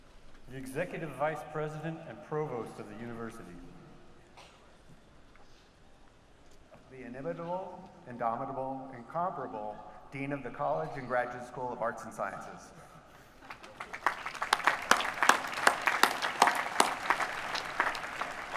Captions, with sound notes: The Executive Vice President and Provost of the University. The inevitable, indomitable, incomparable, Dean of the College and Graduate School of Arts and Sciences. [APPLAUSE]